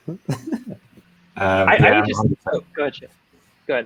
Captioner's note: laughing